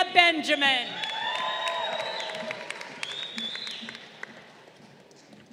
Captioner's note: crowd cheering